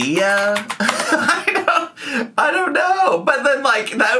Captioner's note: laughs